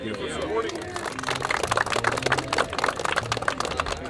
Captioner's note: clapping